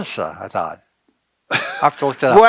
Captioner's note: laughs